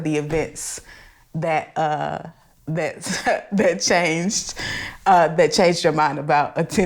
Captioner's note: laughs